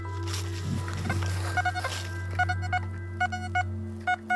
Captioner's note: metal detector beeps